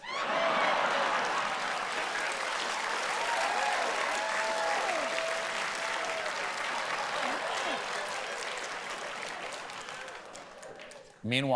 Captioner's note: laughter